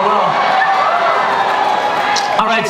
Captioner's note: audience cheering